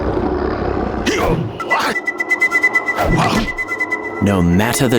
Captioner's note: Shepherd kung fu grunts; flute trilling